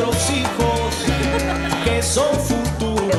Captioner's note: Esperanza ríe